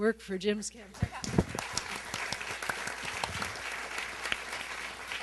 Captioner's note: applause